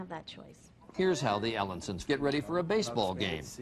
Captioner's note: voiceover